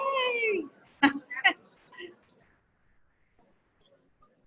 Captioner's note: giggles